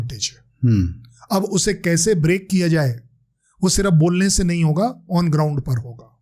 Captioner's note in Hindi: गला साफ़ करने की आवाज़